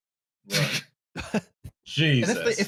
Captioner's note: brief laughter